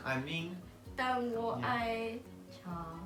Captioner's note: Mandarin; Mandarin